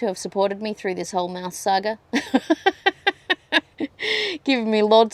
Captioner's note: laughs ruefully